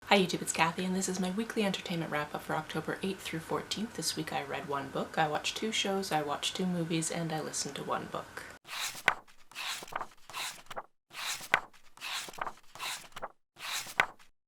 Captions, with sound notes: Hi YouTube, it's Kathy and this is my Weekly Entertainment Wrap Up for October 8th - 14th. This week I read 1 book, I watched 2 shows, I watched 2 movies, and I listened to 1 book. [pages turning]